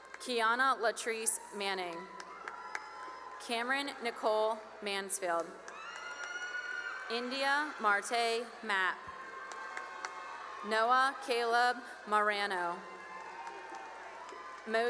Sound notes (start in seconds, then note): 1.7 cheering and applause; 5.2 cheering and applause; 8.6 cheering and applause; 12.4 cheering and applause